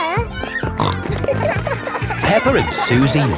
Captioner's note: snorting